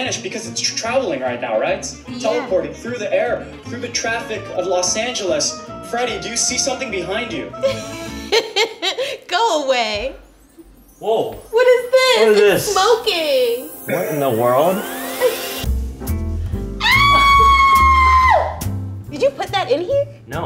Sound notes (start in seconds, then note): 7.6 laughing; 16.8 screaming